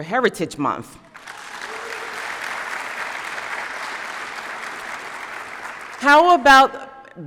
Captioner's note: applause